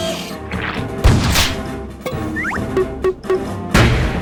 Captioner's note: squishy sound; plop, plop, plop